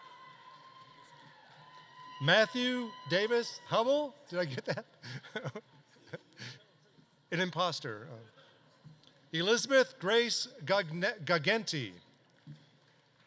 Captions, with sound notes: Matthew Davis-Hubble, did I get that? (laughs) An imposter. Elizabeth Grace Guagenti.